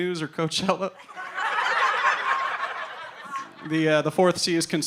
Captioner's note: audience laughing